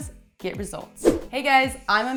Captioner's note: whooshing